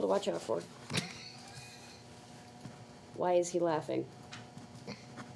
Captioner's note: Victor chuckling